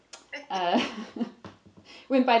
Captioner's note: laughs